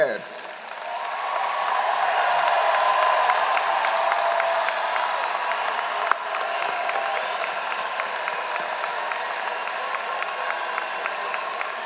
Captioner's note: applause